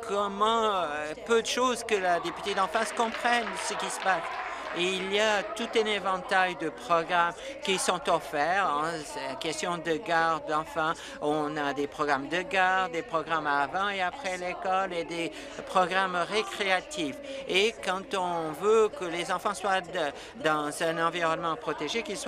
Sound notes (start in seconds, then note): 6.0 applause